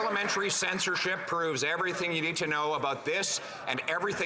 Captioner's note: some Applause